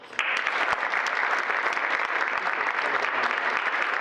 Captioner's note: audience applause